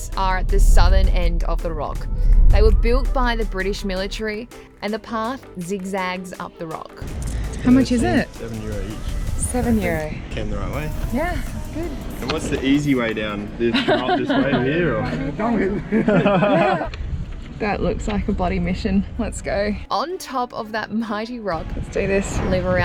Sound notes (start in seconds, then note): 13.7 laughs